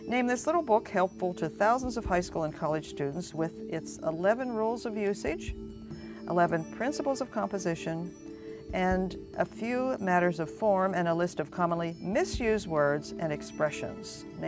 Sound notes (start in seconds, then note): none